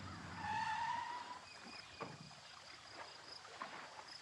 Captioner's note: crickets chirping